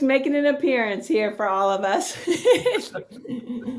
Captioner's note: laughing